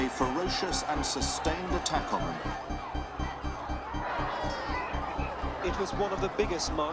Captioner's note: distance shouting